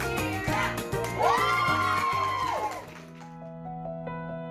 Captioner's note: group cheers; gentle music